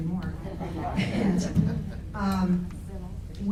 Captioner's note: laughs